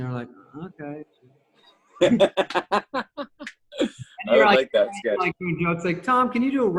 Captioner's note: laughs